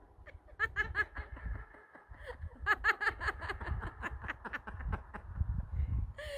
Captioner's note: laughter